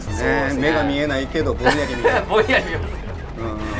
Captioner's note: laugh